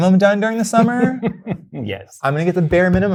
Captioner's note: guy laughing